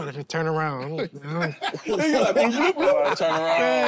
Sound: group laughs

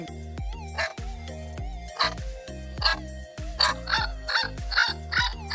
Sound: barks

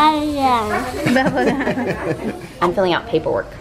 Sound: laughing

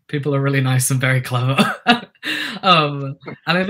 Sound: laughter

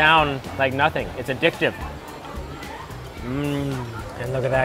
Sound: murmurs

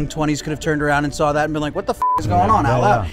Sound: beep

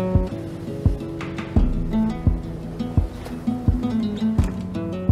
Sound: waves ebb and flow

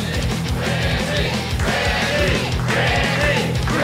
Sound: chanting

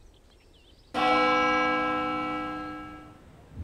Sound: bell tolling

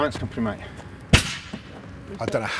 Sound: explosion

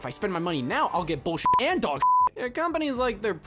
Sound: beeps

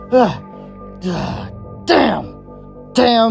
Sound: panicked grunting

